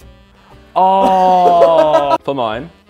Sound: Vik laughing

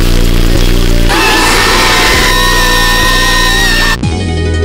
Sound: all scream

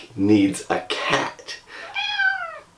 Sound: Noid meows

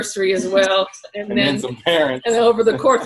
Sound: laughs

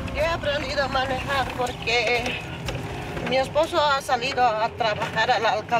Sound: speaking in foreign language

